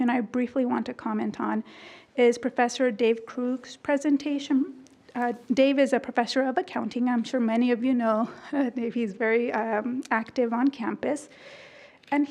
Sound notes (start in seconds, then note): none